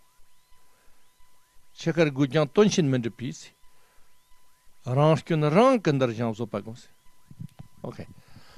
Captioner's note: tibetan